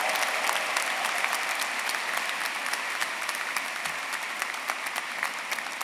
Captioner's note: everyone cheering and applauding